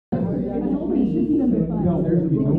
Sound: office Background Noise

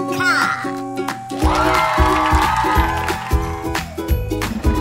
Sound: crowd cheering and applauding

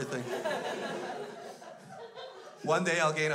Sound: crowd laughs

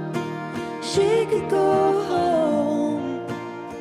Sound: none

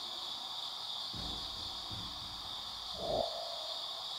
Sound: thudding

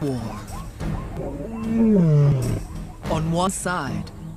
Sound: groans

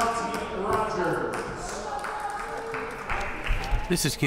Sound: players applauding

